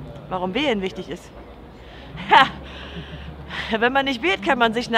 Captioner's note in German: Lacht